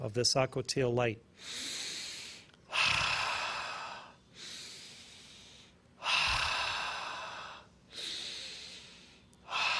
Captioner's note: inhales and exhales four times